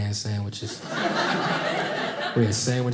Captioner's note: audience laughing